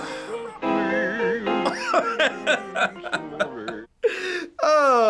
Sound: man humming; laughs

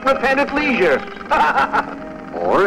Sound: laughter

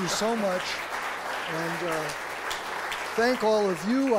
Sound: applause

